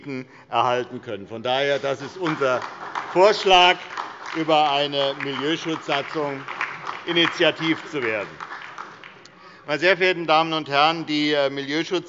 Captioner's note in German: Beifall bei der SPD